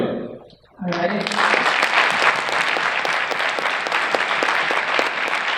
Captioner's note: crowd applauds